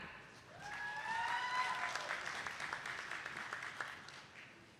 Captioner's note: attendees clapping